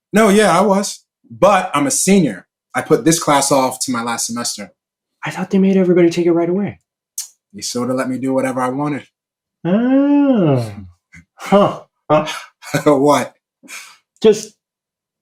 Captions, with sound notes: No, yeah. I was. But I'm a senior. I put this class off till my last semester. I thought they made everybody take it right away. [clicks tongue] They sort of let me do whatever I wanted. Oh. Huh. [chuckles] [laughs] What? Just...